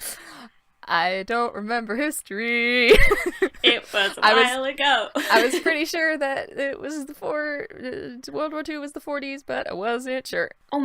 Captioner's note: sing-song